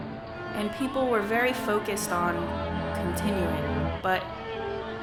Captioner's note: voiceover